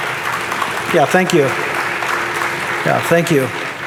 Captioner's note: audience applauding